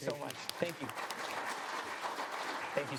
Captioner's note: applause